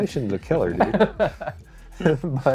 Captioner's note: laughs